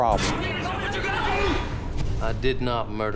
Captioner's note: yelling